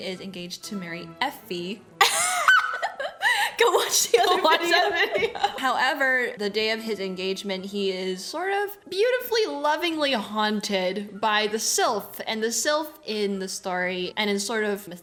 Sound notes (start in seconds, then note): 2.0 laughs